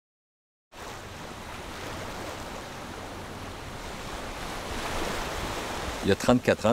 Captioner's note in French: Vagues